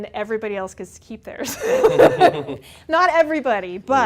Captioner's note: both Laugh